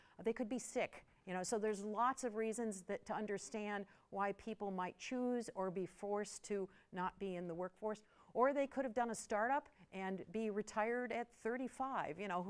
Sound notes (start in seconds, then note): none